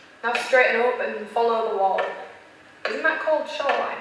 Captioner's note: tip-tapping of cane